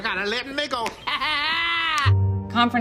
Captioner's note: Madea laughs